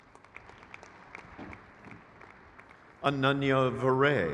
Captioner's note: crowd cheers